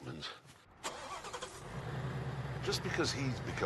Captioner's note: car engine starts